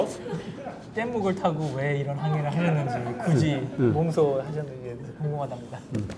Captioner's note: speaking in Korean